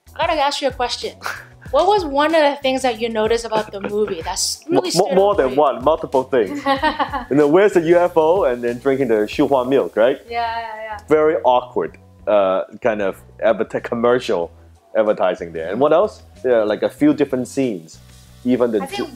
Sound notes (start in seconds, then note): 6.5 laughing